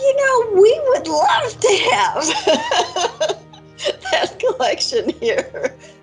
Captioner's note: laughs